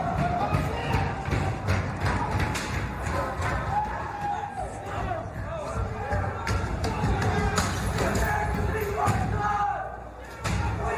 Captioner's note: yelling